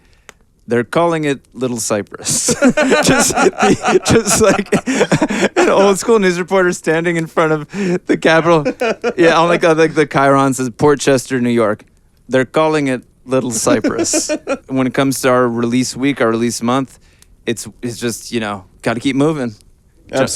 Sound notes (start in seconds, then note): 2.3 laughing; 13.5 laughing